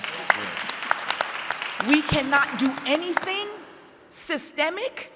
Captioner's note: audience applauding